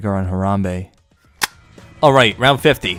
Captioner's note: tape recorder turns off